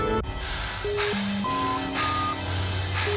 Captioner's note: beeping